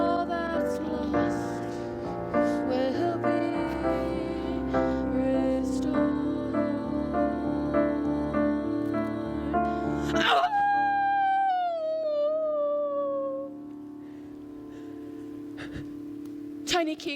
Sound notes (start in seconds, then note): 10.0 howls